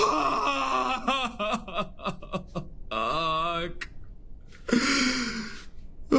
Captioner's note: sobs